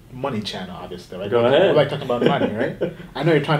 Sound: laughing

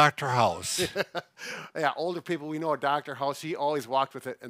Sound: laughs

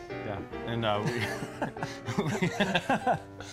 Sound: laughing

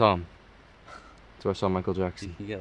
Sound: laughs

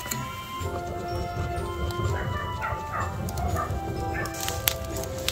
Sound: blowing

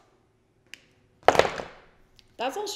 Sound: makeup falling on desk

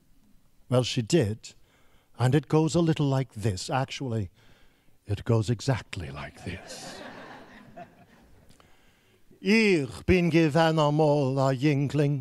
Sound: laughing

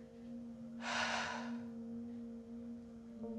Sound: deep sigh

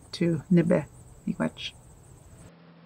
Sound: speaking in Anishinaabemowin

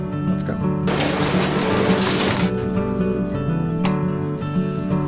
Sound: garage door closing

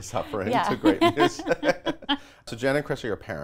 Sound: laughing

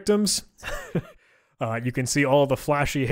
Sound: chuckling

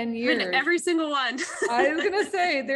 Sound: laugh

